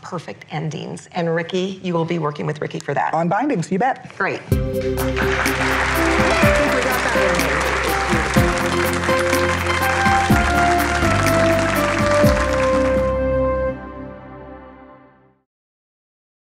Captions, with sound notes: we want perfect endings. And Ricky, you will be working with Ricky for that. - On bindings, you bet. - Great. (upbeat jingle) (applause)